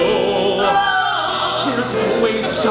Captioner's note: ah-ah!